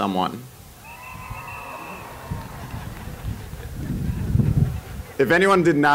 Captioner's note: cheering